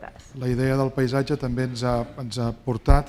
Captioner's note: speaking spanish